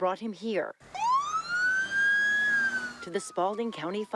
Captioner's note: siren blares